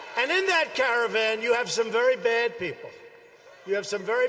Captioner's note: cheering